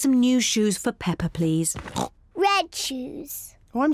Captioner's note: oinks